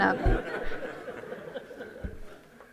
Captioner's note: laughter